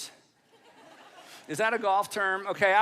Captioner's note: audience laughing